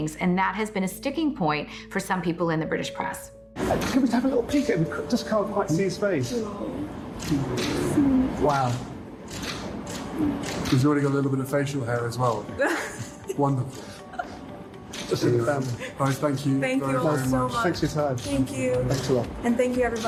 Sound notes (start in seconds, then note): 9.3 shutter clicking; 12.6 Meghan laughs